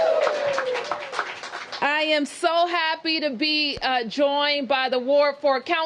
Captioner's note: cheers and applause